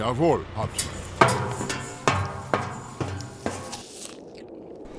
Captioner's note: metal ladder clanks